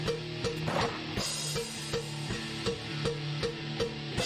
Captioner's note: gunfire